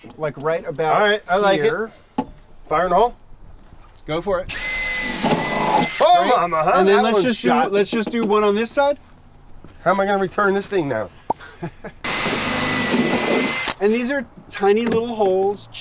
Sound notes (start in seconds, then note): 4.5 drill vibrating; 11.4 man laughs; 12.0 drill vibrating